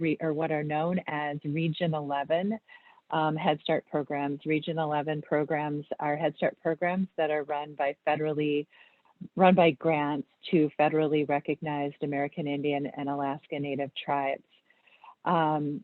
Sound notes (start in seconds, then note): none